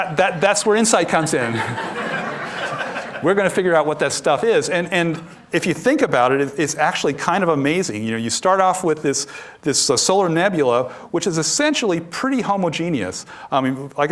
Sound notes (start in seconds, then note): 3.4 laughter